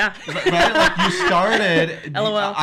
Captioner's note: laughing